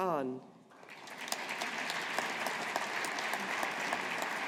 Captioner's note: audience applauding